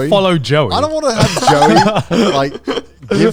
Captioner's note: laughing